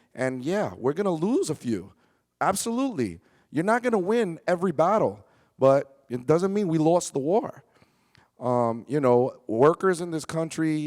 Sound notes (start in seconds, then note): none